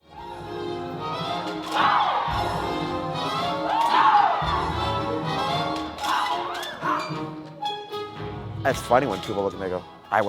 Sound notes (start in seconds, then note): 0.1 joyful music; 1.7 singers shouting